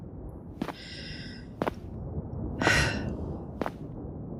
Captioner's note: footsteps as you leave